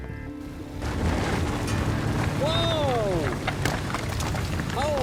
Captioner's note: explosions